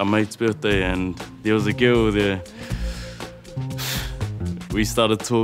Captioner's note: breathes deeply